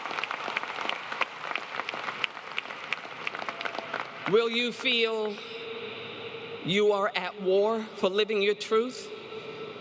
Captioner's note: applause